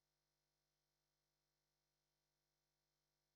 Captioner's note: none